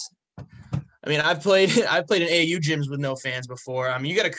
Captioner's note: chuckling